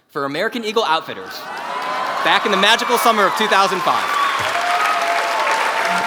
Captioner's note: applause